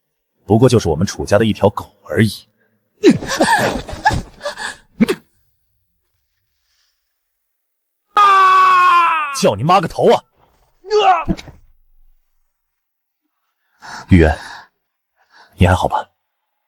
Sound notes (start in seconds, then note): 8.1 screams